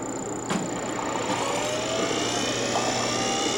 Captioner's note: whirring sound